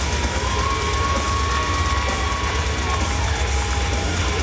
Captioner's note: audience cheering